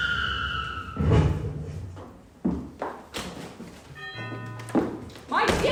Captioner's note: tires screeching; door bell rings